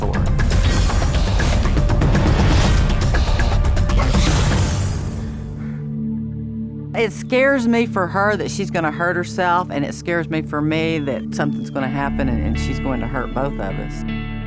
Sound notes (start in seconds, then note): 0.3 dramatic music; 5.5 sigh